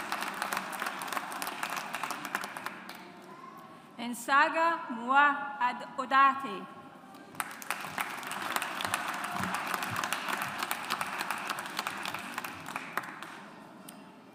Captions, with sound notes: Nsangha Mua Odate. (AUDIENCE APPLAUDS)